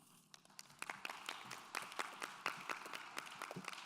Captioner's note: clapping